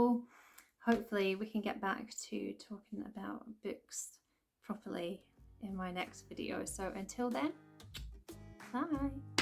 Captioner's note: kiss